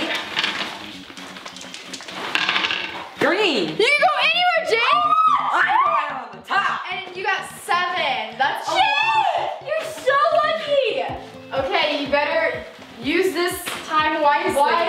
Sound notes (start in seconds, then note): 0.1 jangling; 5.6 screeching